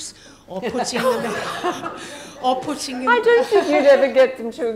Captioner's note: laughing